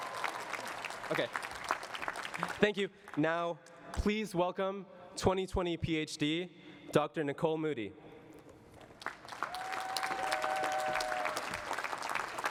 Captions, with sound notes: OK. Thank you. Now, please welcome 2020 PhD Doctor Nicole Moody. [CHEERING AND APPLAUSE]